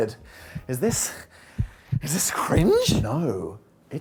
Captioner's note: heartbeat thumping